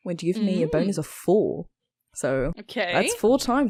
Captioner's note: intrigued sounds